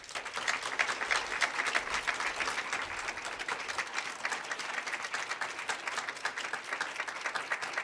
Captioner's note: applause